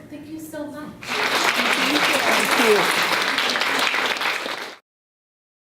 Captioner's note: audience applauding